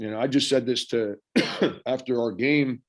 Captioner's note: Frank coughing